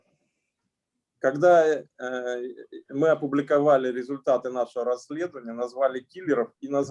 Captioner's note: speaking Russian language